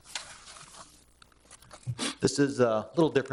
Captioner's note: papers shuffle, attendee sniffs